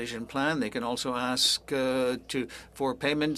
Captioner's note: speaking french